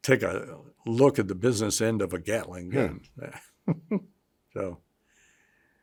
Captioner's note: chuckles